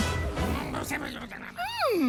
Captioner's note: grumbles